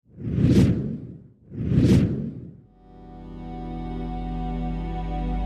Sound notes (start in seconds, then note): 0.0 screen whooshing; 2.8 airy music